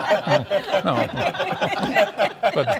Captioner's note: laughter